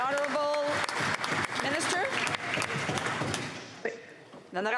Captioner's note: some Applause